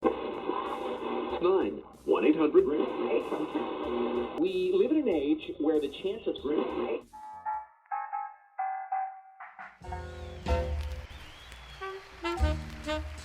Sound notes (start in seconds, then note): 0.0 scanning radio dial; 9.7 big band swing music